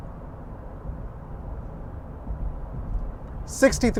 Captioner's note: car rumbling